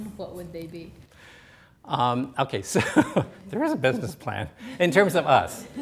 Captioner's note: laughs